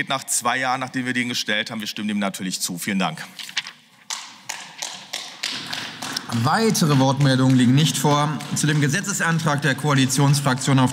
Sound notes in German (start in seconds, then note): 4.5 Beifall